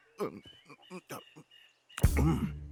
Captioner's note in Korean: 코를 킁킁거리는 소리